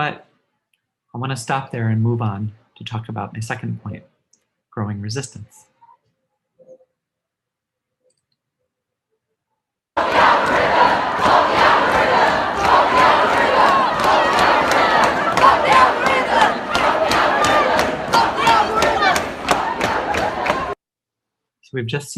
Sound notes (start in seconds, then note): 9.9 crowd chanting: "Fuck the algorithm."